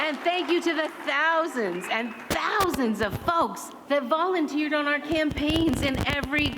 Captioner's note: applause